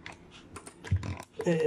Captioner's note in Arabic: صوت مضغ علكة